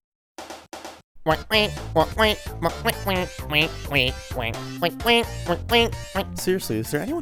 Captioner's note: quack